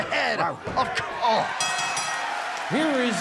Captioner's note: bell ringing